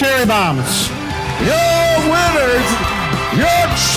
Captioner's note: crowd cheering